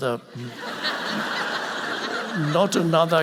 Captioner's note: audience laughing